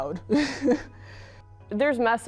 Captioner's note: laughs